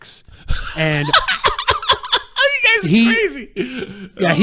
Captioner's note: laughing